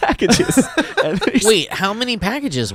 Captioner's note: laughs